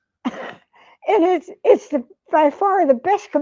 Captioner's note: chuckles